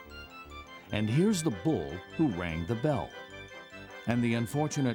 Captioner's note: voiceover